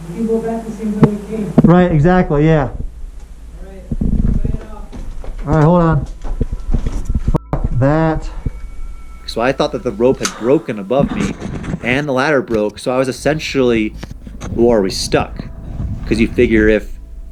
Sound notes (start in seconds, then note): 5.9 wind blowing; 6.5 clattering; 7.3 beep